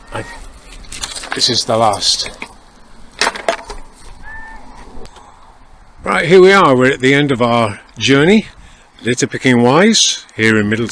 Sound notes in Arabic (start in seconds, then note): 3.7 صوت طائر النورس، في الخلفية؟